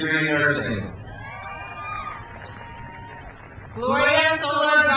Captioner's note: crowd cheers